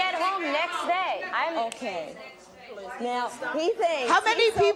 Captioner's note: clicks fingers